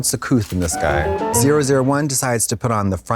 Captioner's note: bright chime